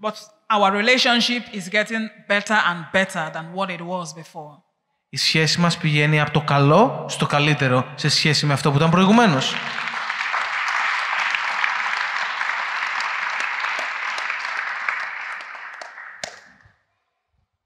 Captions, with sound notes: Our relationship is getting better and better than before! [Applause]